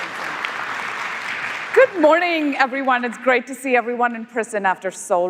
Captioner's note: applause